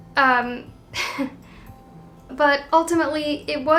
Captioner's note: chuckling sadly